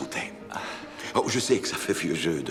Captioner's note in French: Devan glousse